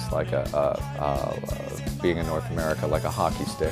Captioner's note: stammering